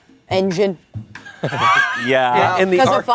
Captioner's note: everyone laughs